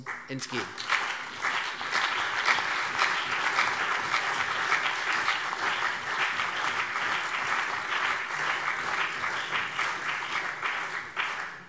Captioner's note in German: Beifall CDU und BÜNDNIS 90/DIE GRÜNEN